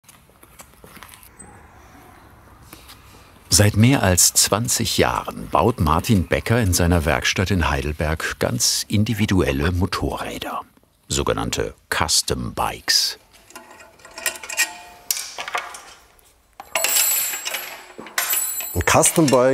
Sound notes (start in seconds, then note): 13.3 rattling and clanking